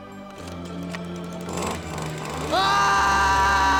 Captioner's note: chainsaw rips